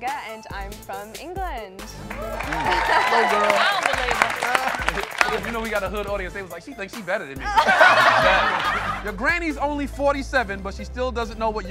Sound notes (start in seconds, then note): 2.0 audience applauds; 7.4 audience laughs